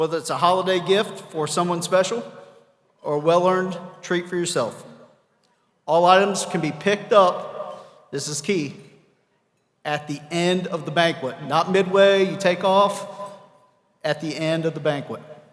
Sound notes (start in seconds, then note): none